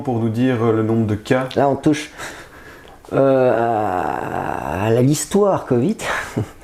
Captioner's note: laughter